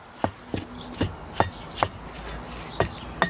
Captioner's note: distant traffic noises